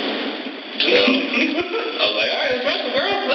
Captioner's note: laugh